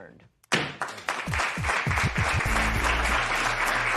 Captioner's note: applause